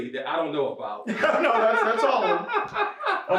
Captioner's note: laughs